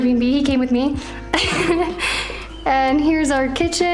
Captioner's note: laughter